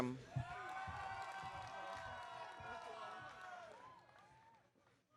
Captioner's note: audience cheering